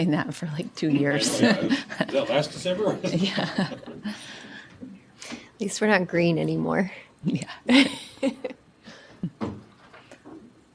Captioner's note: laughter